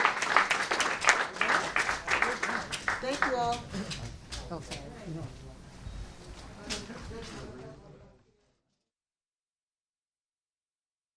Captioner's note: applause